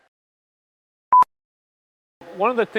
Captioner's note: beep